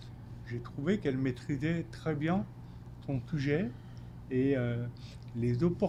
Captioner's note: speaking French